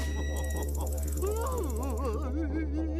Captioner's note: crying